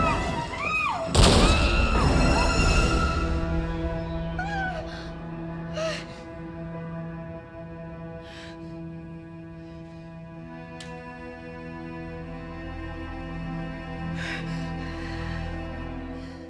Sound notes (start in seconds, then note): 1.3 handgun fires; 4.5 screams; 14.4 gasps